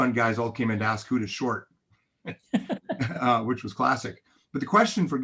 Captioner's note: both chuckling